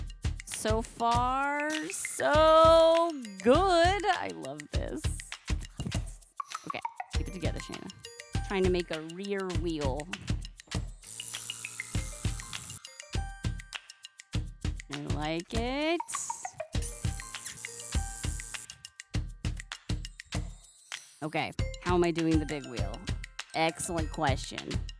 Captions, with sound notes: so far, so good! I love this. *whispers* I love this! okay. Keep it together, Shana. I'm trying to make a rear wheel *music and balloon noises* I like it *music and balloon noises* Okay, how am I doing the Big Wheel? Excellent question.